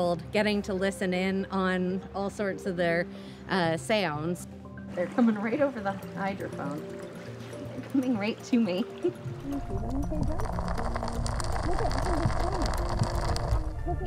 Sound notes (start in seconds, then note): 8.7 chuckles; 9.3 rattling gently